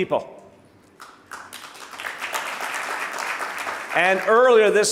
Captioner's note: audience applauding